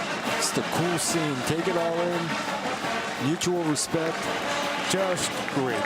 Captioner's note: cheers and applause